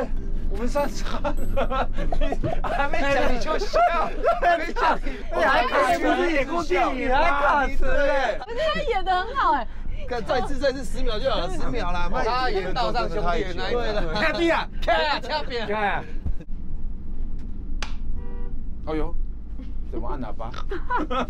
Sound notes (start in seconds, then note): 1.0 everyone breaks into laughter